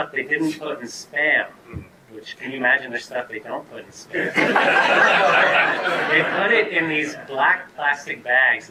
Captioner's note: audience laughter